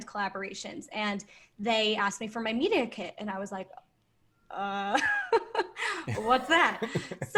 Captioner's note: laughs